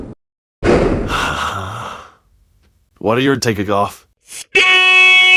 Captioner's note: sigh